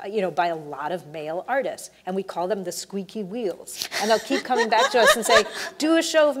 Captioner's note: laughs